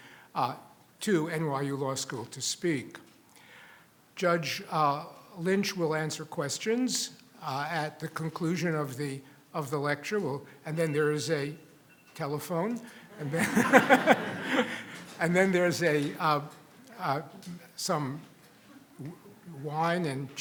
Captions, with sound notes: to NYU Law School to speak. Judge Lynch will answer questions at the conclusion of the lecture, (telephone rings) and then there's a telephone, (audience laughs) and then there's some wine, and cheese, and what have you